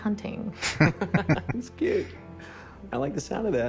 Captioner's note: chuckling